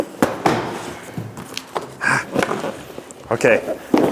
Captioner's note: box thumps